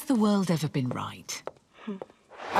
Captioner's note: footsteps receding